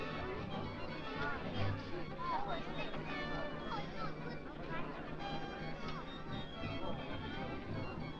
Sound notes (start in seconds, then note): 0.0 crowd chattering excitedly